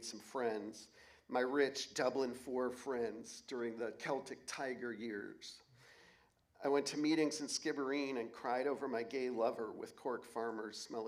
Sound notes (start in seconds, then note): none